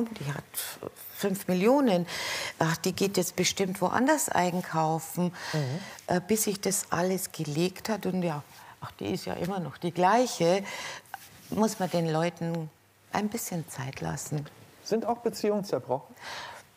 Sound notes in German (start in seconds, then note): none